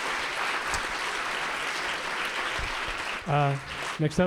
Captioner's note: applause